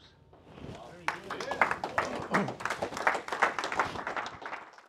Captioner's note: applause